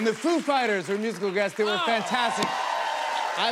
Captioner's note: cheers and applause